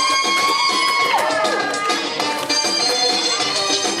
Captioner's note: audience cheering